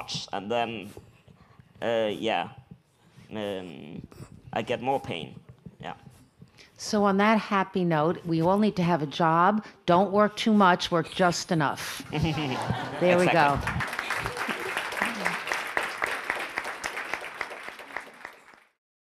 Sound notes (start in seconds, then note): 12.1 audience laughs; 12.8 audience applauds